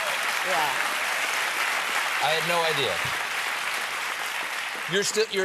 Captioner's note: applause